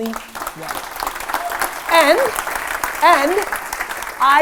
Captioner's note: applause